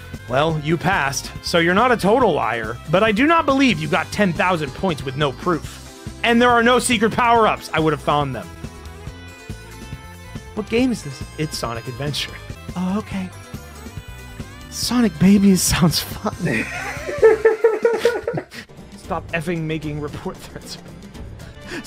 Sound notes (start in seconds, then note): 16.5 laughter